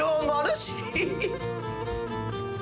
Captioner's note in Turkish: Gülüyor